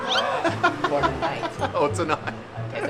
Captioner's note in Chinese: 得意的笑